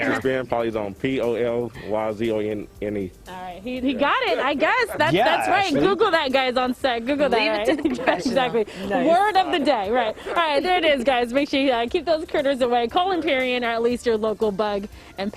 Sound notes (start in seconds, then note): 3.9 laughter